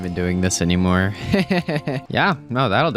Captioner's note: laughs